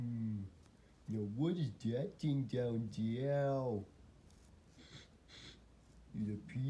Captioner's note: sniffs